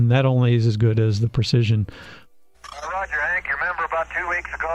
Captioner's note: two-way radio transmission